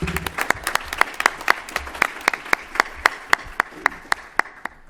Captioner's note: applause